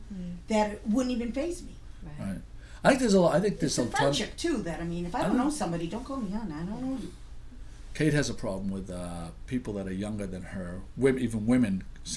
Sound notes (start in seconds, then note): 2.4 voiceover; 7.9 voiceover